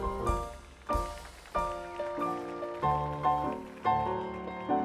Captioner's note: audience applauding